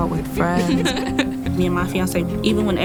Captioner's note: girls giggling